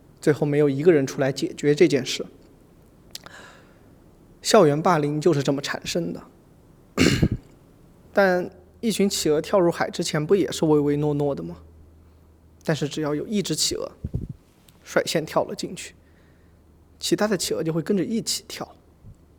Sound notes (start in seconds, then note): 6.9 cough